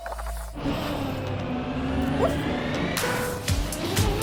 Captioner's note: engines rev